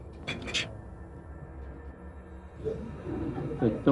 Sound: group laughs

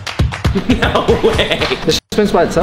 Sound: chuckles

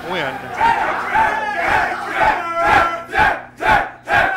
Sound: cheering

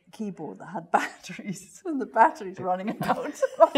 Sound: laugh; laughs

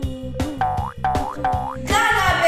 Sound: upbeat music; footsteps boinging

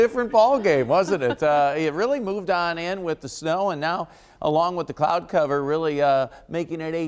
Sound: laughter

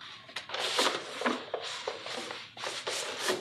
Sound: paper rustles

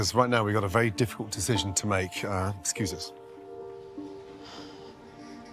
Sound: sighs

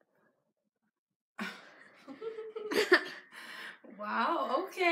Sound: laughs

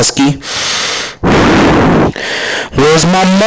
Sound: heavy breathing

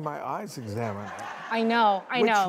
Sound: audience laughing

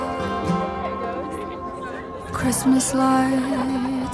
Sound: group chattering

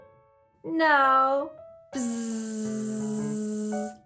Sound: buzzes

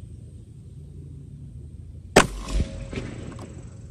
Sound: report of the rifle

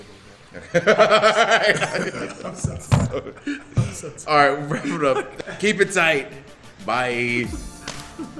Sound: laugh; laugh

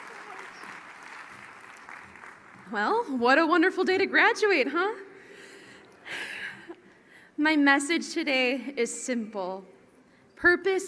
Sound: cheering; applause

